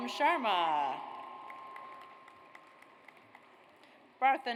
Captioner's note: audience applauds